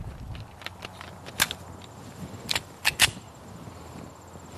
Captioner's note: gun clicks